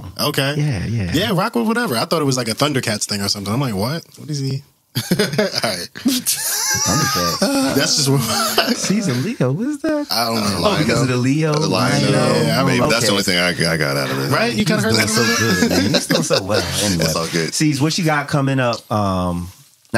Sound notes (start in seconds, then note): 6.0 laughter